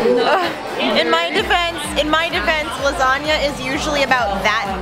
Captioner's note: overdramatic sigh